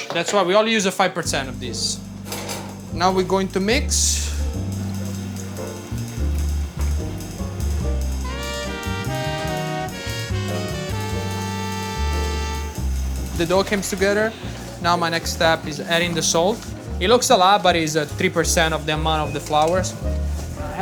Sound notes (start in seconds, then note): 2.3 cover clattering; 4.7 classical music